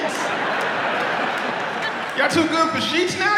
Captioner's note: audience laughs